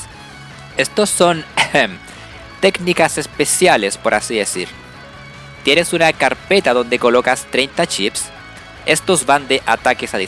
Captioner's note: ahem